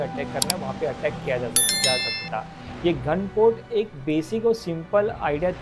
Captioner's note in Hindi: घंटी की आवाज़